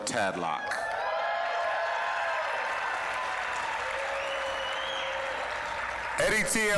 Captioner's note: applause, cheering